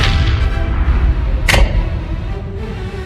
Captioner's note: lights activate